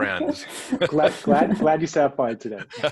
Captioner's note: laughs